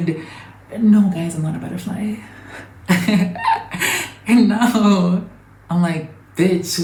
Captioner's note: giggles